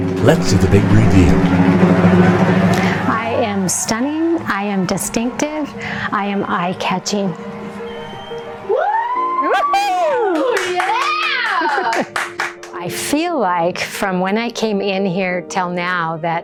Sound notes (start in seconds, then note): 8.7 audience cheering